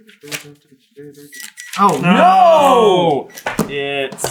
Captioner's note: gentle beeping